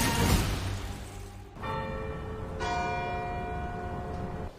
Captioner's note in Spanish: Campanadas